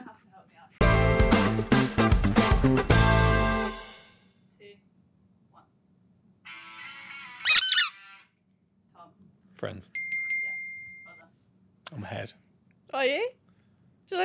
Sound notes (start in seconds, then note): 0.8 upbeat rock music; 7.4 toys squeak